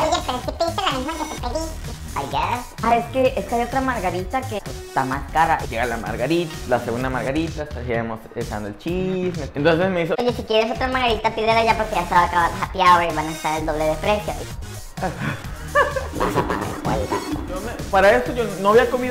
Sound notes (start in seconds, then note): 16.4 demonic voice